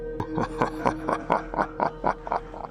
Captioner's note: Huram chuckles